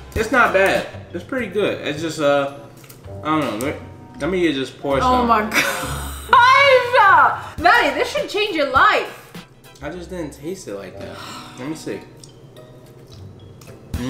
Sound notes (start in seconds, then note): 11.0 sighs; 12.6 playful music